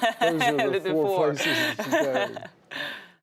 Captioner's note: laughs